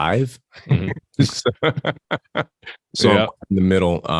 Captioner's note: both laugh